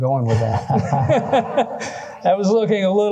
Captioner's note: laughter